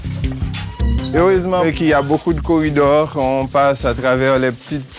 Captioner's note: French spoken audio